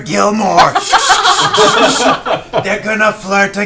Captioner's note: laughs